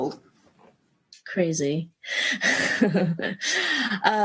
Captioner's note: chuckle